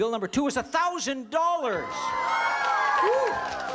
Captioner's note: cheering